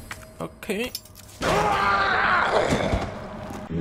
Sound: zombie screaming

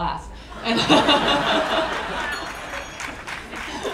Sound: laughing

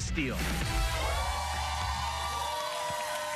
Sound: cheers and applause

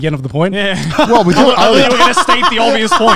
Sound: laughs

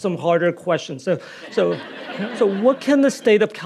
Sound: audience laughing

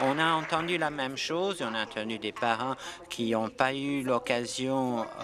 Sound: applause

